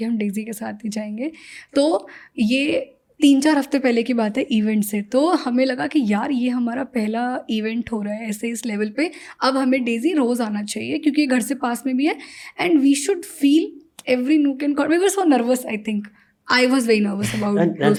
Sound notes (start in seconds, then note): 11.6 speaks in Hindi